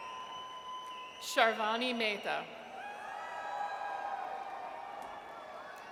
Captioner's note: audience cheers; audience cheers